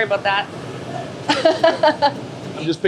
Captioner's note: laughter